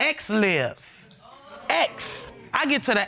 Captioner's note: audience groaning